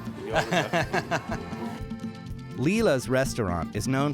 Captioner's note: laughter